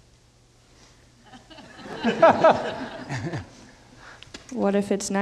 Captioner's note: audience laughing